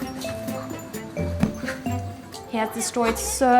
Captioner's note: ball thumps